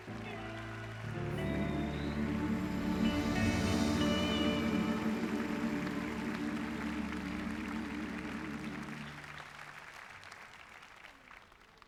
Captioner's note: applause